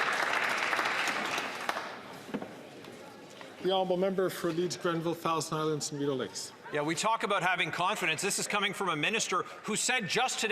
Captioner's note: some Applause